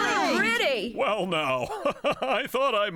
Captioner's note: chuckling